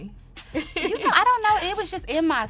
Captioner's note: laughs